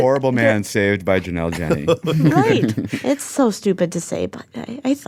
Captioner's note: laughs